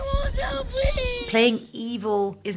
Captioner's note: shushing